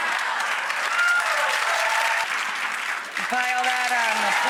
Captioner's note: audience applause